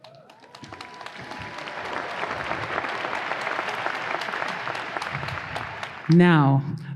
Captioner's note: audience applause